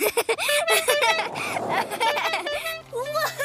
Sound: Peter giggles; horn honks

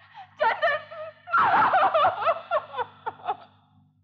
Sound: crying

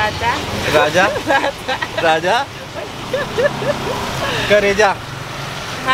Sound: laughing

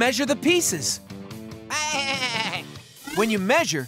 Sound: baaing

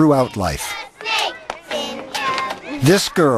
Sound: children chant

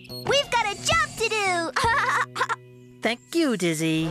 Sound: laughing

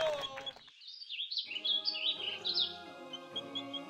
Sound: birds chirping; serene music

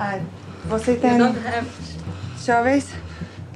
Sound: woman speaking foreign language; speaking foreign language

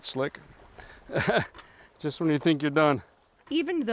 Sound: chuckles

